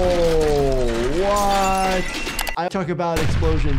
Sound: debris thuds; glass clatters

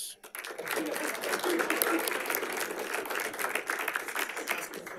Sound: audience applauding

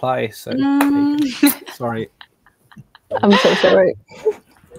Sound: all chuckling

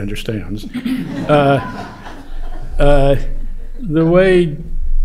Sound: laughter

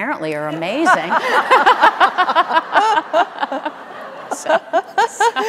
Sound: audience laughing

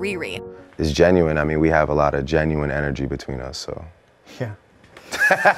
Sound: laughing

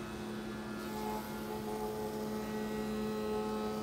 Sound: buzzing saw

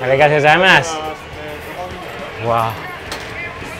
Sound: speaking in foreign language

